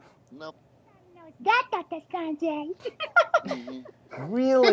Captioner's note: giggling